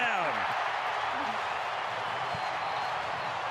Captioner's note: crowd cheering